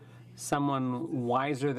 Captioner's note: speaking french